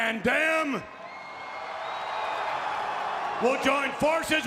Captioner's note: crowd cheering